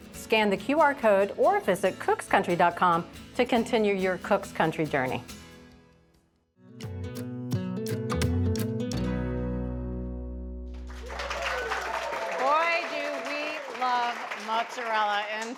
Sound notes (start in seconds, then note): 6.8 upbeat music begins; 10.8 audience applauds